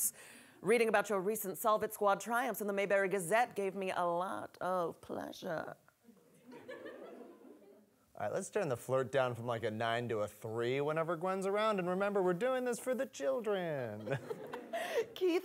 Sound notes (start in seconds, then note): 6.4 audience laughing